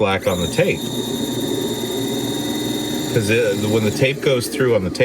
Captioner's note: tape recorder whirring